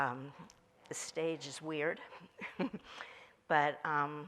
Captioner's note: chuckles